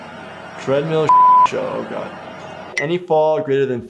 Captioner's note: beep